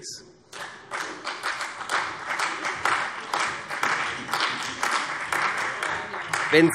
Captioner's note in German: Beifall CDU und vereinzelt AfD - Zurufe DIE LINKE